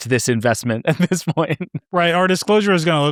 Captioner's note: laughing